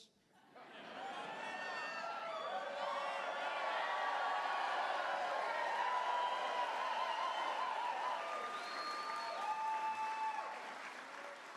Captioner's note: cheers